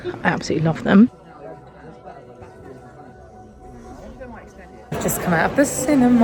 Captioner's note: people chattering